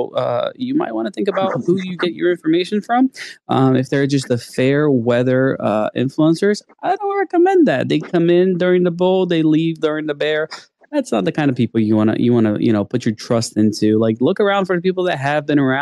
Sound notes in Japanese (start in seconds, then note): 9.9 弱気